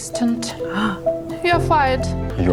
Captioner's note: Emma gasps